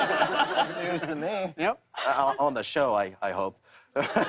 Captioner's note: laughter